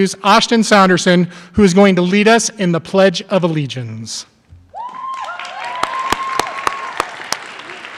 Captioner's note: applause